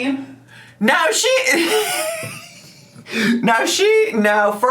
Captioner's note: laughs